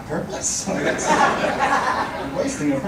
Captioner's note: audience laughing